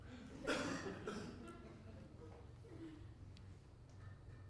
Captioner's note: students laugh